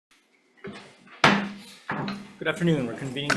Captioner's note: gavel bangs